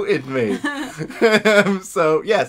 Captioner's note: laughs